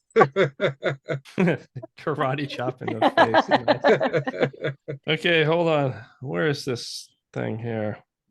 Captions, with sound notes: (laughing loudly) - Karate chop in the face... (laughing heartily) Okay, hold on, where is this thing here?